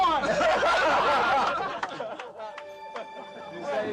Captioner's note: laughter